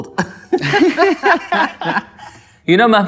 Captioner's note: laughs